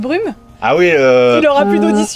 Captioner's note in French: bruit de la corne de brume